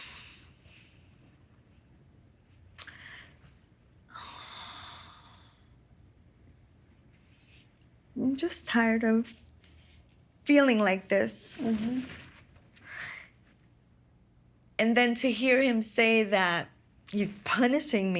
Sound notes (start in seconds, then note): 4.1 sighing